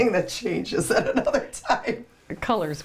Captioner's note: laughs